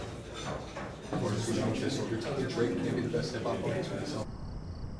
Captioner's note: restaurant patrons talking; crickets and sirens